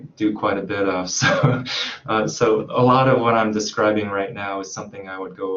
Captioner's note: chuckles